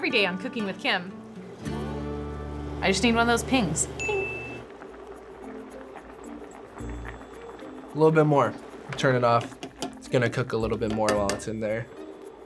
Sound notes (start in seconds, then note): 0.0 heartwarming country music; 4.5 ping